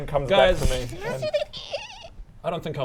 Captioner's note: squeak squeak squeak